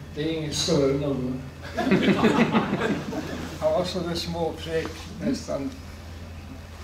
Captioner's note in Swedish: Skratt